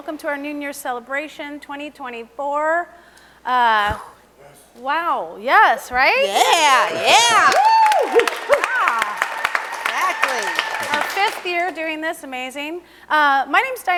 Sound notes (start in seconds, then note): 8.5 audience applauds